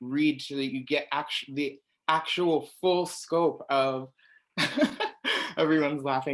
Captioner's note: laughs